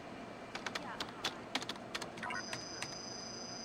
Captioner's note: keyboard clacks; computer chirps